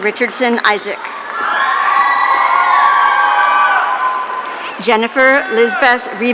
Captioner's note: audience cheering